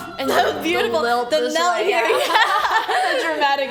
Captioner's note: laughs